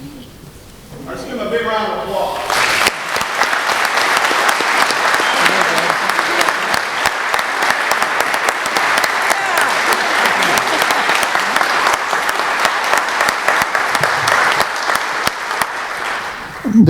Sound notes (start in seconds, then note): 2.4 applause